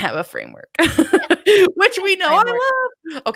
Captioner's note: laughing